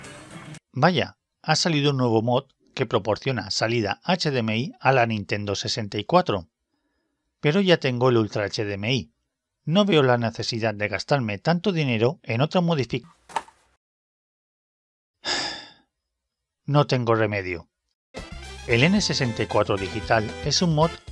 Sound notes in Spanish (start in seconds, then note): 15.2 Suspiro